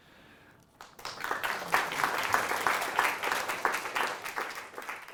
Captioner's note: applause